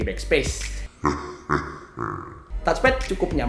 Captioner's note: Satan noise